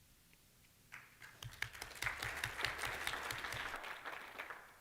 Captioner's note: applause